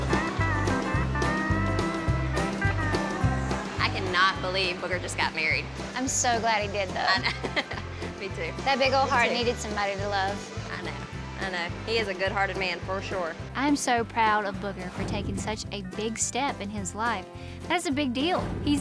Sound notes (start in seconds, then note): 7.0 laughs